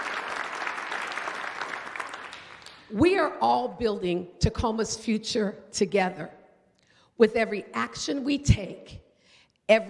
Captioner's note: applause